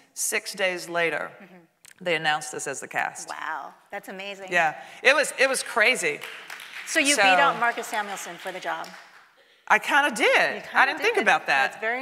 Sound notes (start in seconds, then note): 6.0 audience clapping